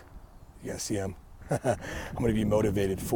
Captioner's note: laughing